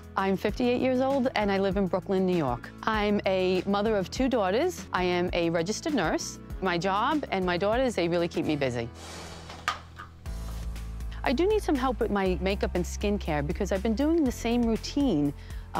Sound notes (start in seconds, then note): 8.9 air whooshing; 10.6 light music